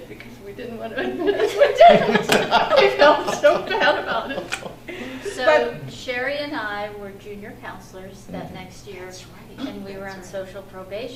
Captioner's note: all laugh